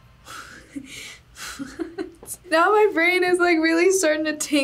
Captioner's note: chuckles